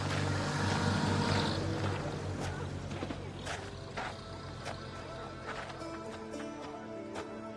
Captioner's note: engine rattles past